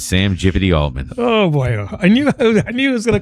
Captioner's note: uh